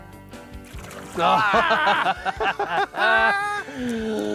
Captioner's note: both laughing; sighs